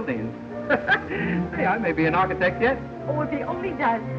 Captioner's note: chuckles